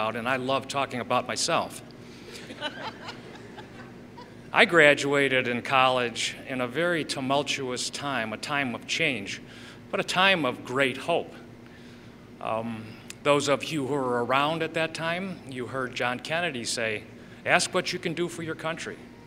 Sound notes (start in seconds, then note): 2.3 laughter